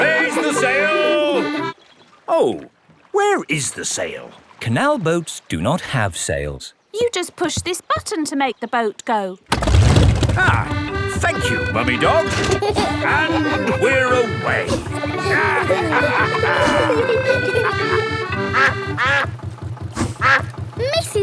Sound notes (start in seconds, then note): 0.0 kids laughing; 10.0 boat engine revs; 12.6 kids giggling; 15.6 all laughing; 18.7 quacking